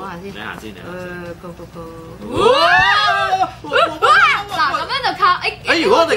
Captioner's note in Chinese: 尖叫